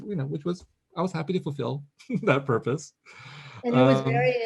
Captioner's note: chuckles